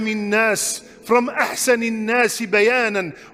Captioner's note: Arabic